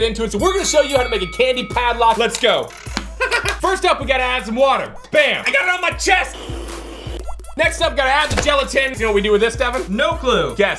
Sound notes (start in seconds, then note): 3.0 laughs; 6.3 slurping